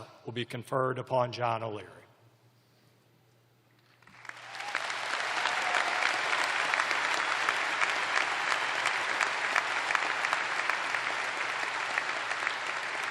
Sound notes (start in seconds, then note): 0.8 cheers and applause